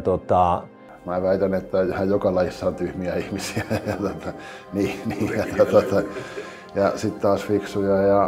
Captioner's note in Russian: смеется